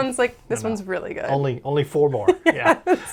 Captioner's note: laughs